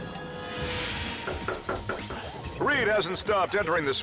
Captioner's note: hand knocks